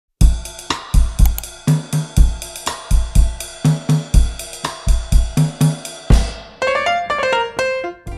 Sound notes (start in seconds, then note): 1.2 clicking of mouse; 6.5 piano riff